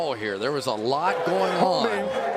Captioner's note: whistle blowing